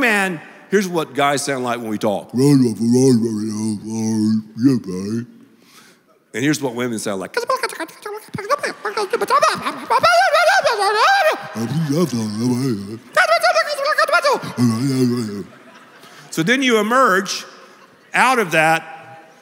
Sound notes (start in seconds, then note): 8.3 talking SFX